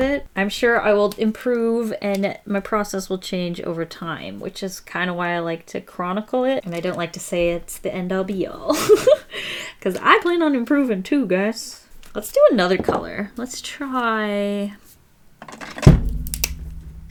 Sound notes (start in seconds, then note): 8.7 laughs